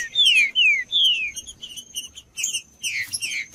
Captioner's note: trinca ferro cantando